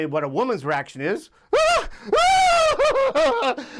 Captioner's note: shrieking